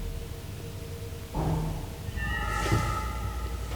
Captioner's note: knock thuds; eerie dramatic music